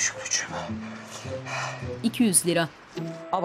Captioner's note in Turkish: Nefes sesi